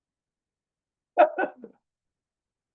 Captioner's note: laughs